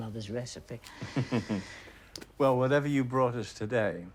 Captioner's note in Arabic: ضحكة مكتومة